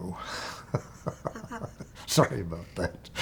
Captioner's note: chuckling